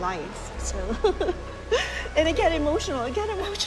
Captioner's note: laughs